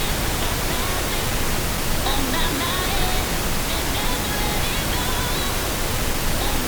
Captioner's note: pink noise crackling; faint singing in background